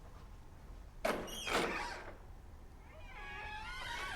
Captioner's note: door creaks